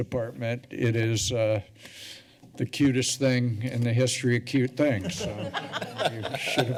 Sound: laughter

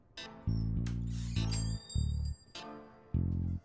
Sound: bell ringing

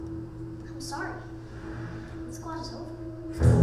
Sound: voiceover

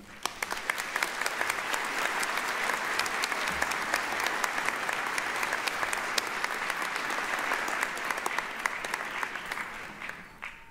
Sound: applause

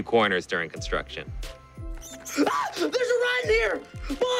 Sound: animal squeaks; screams

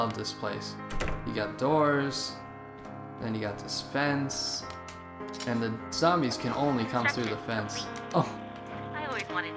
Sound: door

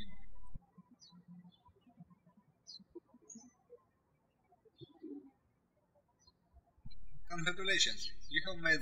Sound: birds chirping

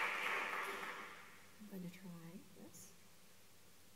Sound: applause

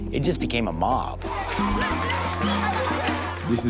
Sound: applause

